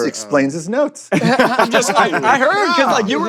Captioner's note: laughter